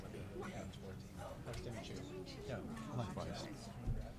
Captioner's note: people chattering